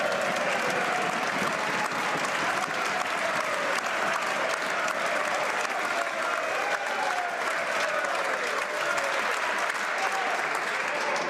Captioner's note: some Applause